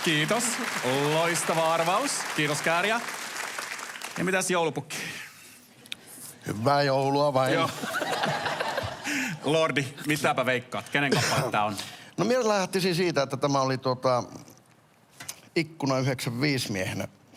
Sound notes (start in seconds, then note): 7.6 laughter